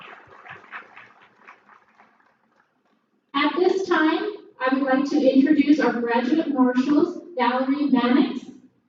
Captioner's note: applause